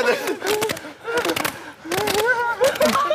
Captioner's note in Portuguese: Tudo o que você pode ouvir são aplausos e risos